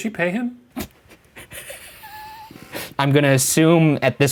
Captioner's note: laughing